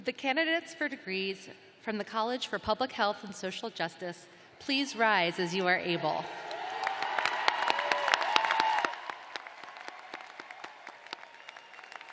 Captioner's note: cheers and applause